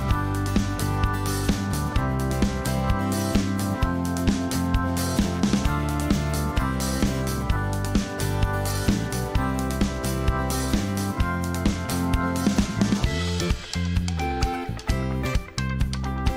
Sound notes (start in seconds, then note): none